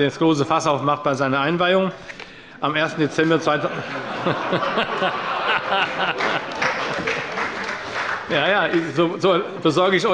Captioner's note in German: Heiterkeit – Beifall bei Abgeordneten der SPD